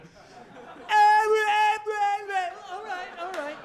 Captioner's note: audience laughing